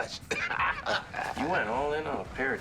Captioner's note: laughs